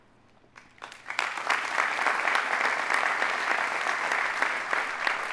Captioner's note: audience applauding